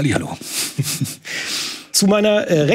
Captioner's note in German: Lachen